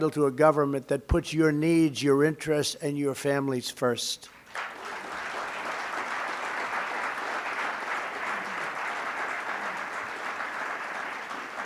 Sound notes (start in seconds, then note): 4.3 applause